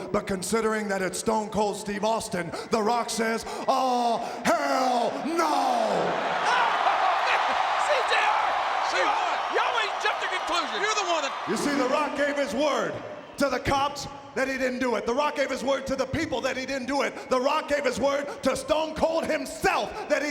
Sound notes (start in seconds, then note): 6.0 audience cheering